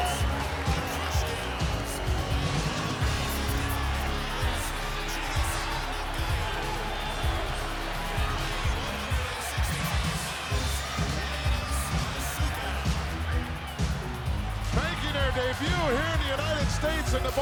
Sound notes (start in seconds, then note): 12.9 audience cheering; 12.9 upbeat music